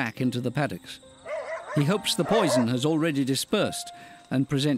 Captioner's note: dogs barking